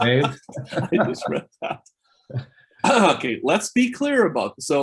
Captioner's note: laughs